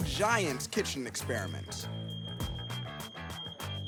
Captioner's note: alarm beeping